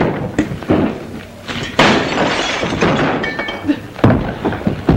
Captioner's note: crashing